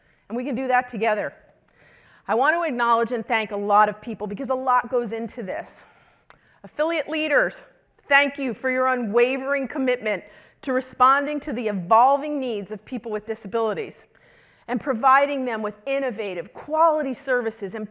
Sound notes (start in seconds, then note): none